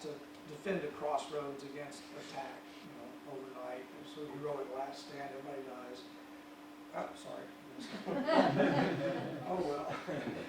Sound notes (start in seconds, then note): 5.6 audience laughs